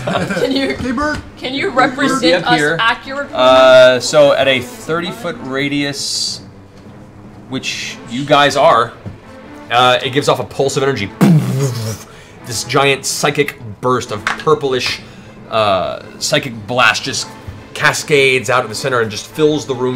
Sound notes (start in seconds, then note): 0.0 laughter; 11.0 boomf